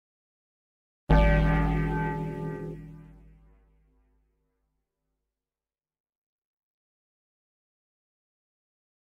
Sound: church bell

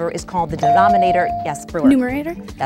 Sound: dinging

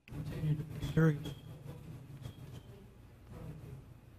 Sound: faintly speaking

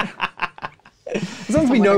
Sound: laughs

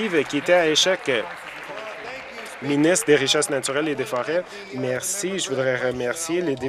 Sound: applause

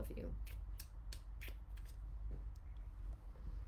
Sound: kissing

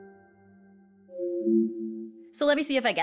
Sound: beeping

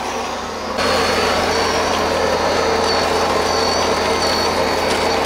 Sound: machine whirring

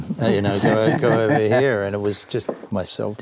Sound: laughter

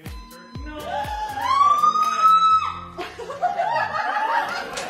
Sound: screams; laughter

